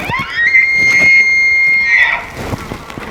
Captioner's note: cow mew